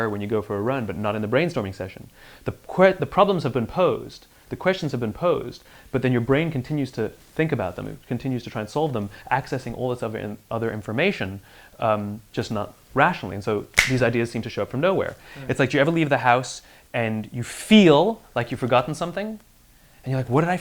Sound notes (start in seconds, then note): 13.7 snaps Fingers